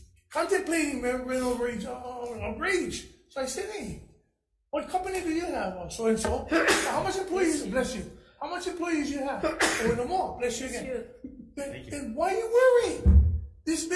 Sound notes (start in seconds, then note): 6.4 sneezing; 9.4 sneezing